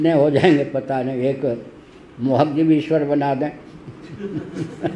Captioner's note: laughs